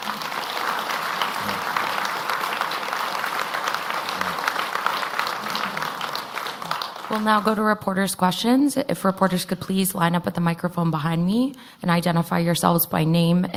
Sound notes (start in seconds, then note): 6.9 applause